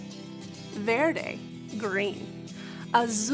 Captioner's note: speaking in foreign language